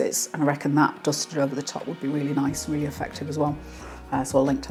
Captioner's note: none